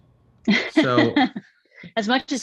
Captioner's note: Frances laughs